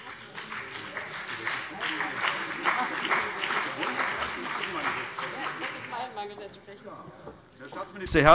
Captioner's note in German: Beifall CDU und BÜNDNIS 90/DIE GRÜNEN